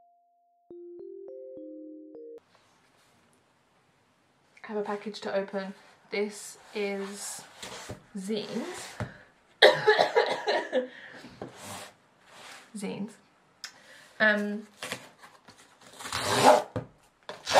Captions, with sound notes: I have a package to open this is zines (coughs) zines um